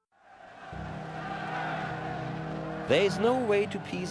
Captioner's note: crowd cheering